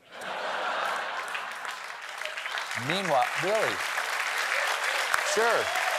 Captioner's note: applause